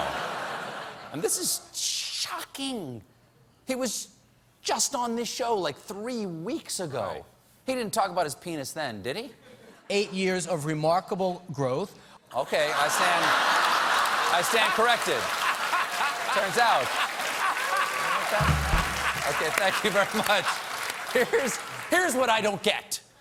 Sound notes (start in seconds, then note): 11.5 applause; 12.6 laughter